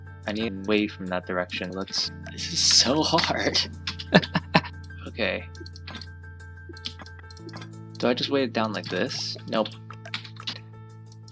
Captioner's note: Confused Sergal Noises